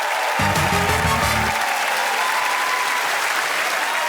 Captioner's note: cheers and applause